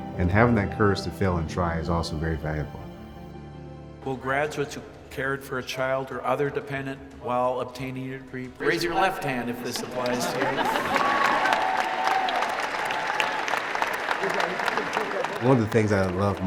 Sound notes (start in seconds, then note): 9.7 graduates laughing; 10.8 audience applauding; 14.0 laughs